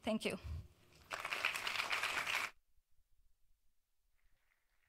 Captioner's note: audience applauds